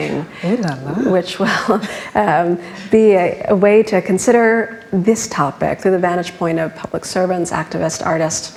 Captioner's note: laughs